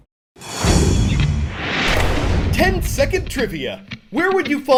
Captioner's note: voice-over